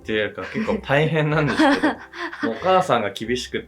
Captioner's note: laughs